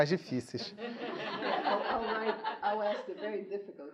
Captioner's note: students laughing